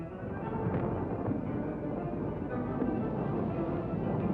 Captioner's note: rumbling